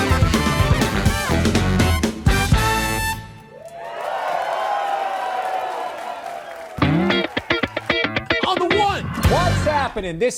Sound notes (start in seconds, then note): 3.4 audience cheers; 6.8 upbeat music